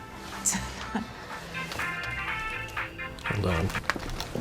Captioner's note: dru scoffs; cell phone rings